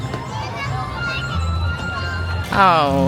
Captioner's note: bright music; tourists chattering